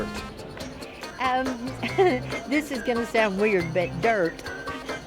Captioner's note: laughs